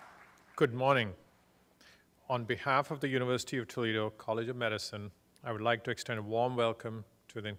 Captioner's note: applause